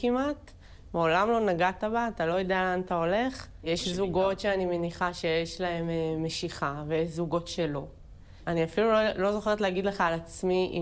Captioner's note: Hebrew